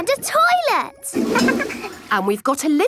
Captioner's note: toilet flush